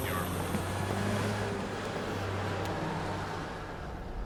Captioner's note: vehicle whirring